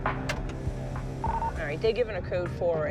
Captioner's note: radio chirps